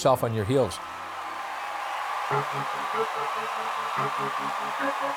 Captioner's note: crowd cheering